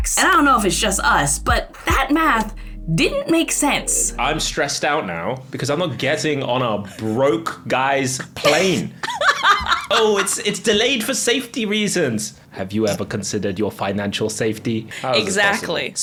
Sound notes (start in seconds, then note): 9.0 laughs